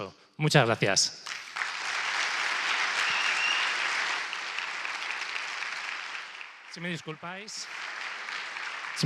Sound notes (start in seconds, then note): 1.2 clapping